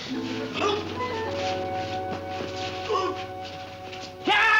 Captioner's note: grunting; shouts